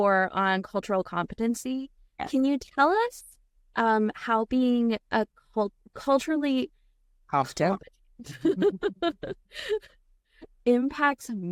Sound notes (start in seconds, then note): 8.2 laughing